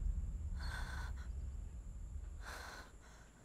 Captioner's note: Breathing heavily